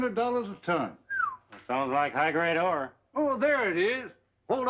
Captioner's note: whistles